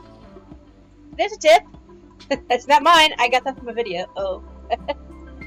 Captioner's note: laughter